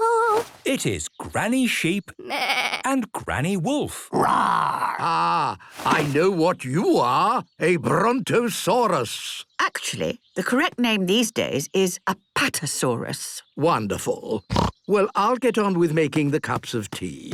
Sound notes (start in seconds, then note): 2.2 bleating; 4.2 roaring; 14.5 snorts